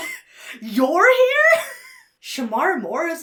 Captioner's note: laughs